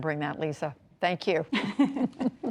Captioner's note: laughter